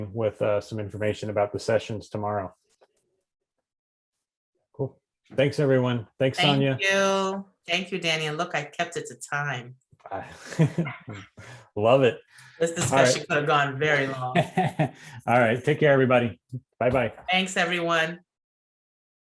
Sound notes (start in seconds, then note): 10.2 chuckles; 14.0 laughs